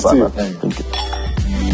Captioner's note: clinking glasses